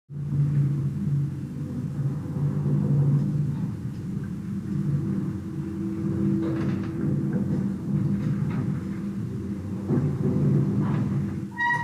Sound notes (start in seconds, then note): 5.2 Hellevator going down, doors open fx